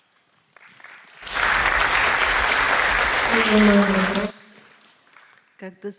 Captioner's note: applause